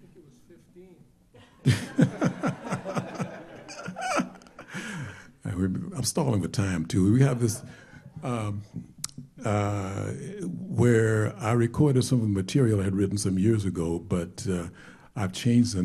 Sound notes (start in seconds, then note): 1.3 laughter